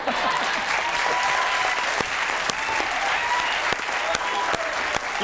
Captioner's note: audience applauds